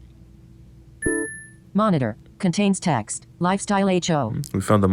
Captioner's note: ping